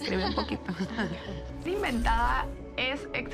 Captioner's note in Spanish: ríe